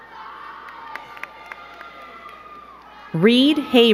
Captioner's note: crowd cheering and clapping